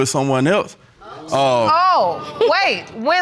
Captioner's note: audience exclaiming